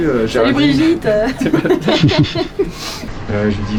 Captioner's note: laughing